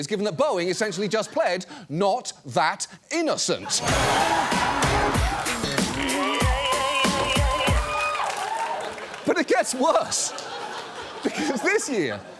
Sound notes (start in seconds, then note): 3.6 audience laughs; 8.0 audience cheers